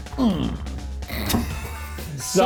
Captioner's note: laughing